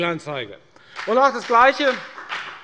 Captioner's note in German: Beifall bei der FDP